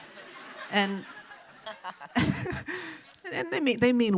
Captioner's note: audience chuckles